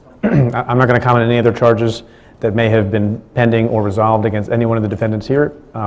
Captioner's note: clears throat